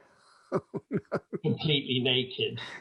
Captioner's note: laughing